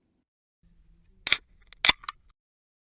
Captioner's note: beer opening sound